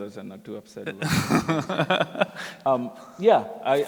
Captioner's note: laughter